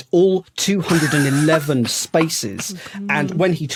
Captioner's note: laughs heartily